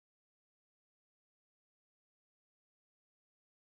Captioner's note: none